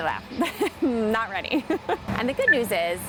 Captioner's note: laughing